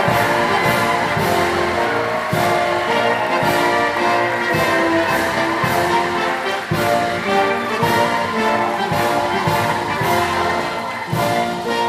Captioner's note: applause